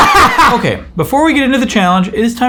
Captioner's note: laughs loudly